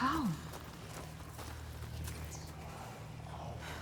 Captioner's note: whispering